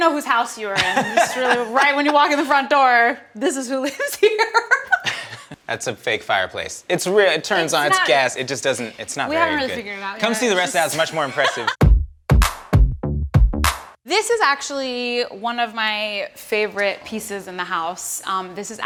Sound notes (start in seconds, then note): 10.8 Emmy laughs; 12.4 upbeat hip hop music